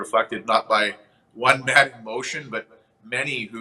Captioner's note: chuckles